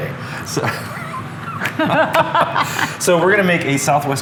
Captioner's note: chuckling